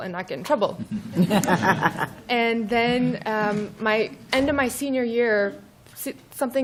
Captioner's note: laughter